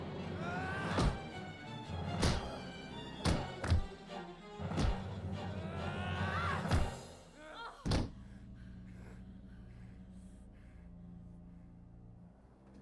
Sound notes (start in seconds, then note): 0.0 dramatic music; 0.3 screams; 5.6 screams; 7.7 dramatic music